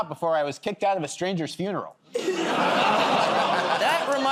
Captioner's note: laughter